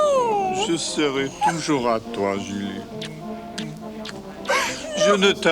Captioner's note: John speaks French